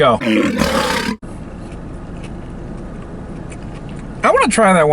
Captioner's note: lion roars